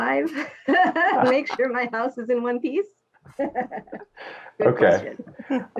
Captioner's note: laughing; laughing